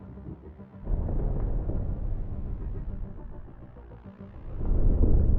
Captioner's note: dreamy electronic music; thunder in distance; dreamy electronic music